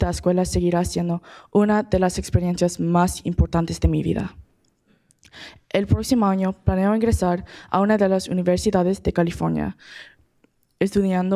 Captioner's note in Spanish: Hablando en español